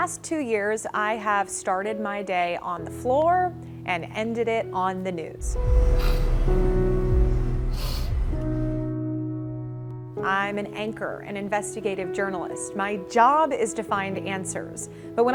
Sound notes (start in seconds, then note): 5.4 sniffling